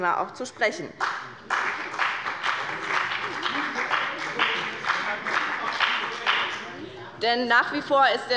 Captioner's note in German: Beifall bei Abgeordneten der GRÜNEN